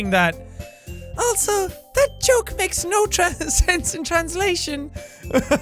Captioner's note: laughs